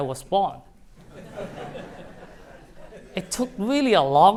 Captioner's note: laughter